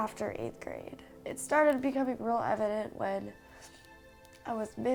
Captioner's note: sniffles